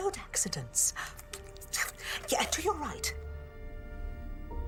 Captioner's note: clicks tongue